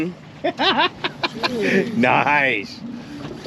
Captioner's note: laughing